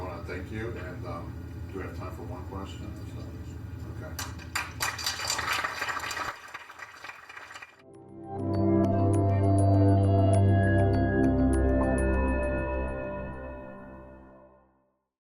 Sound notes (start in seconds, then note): 4.1 applause